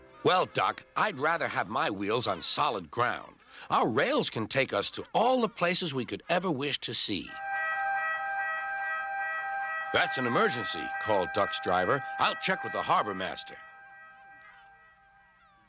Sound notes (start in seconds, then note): 7.4 siren blaring